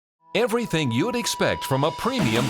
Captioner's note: voiceover